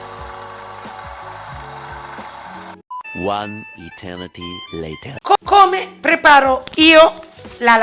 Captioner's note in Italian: Applauso